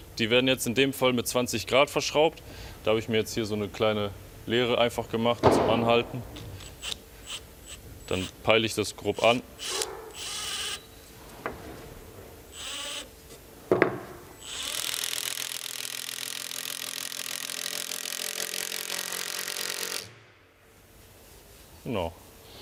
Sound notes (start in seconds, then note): 10.0 drilling noises